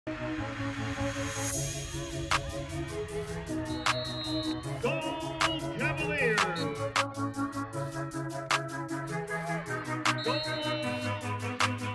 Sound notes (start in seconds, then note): 3.2 whistle blows; 10.0 whistle blows